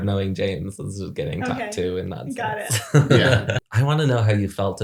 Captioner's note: laughs